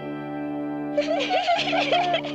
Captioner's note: giggling